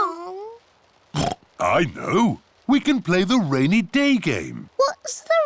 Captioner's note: oinks